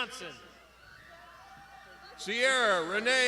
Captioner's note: crowd shouting